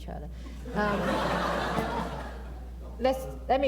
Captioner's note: laughter